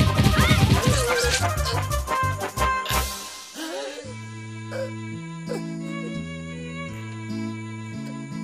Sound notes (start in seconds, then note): 0.9 crying; 3.5 somber music playing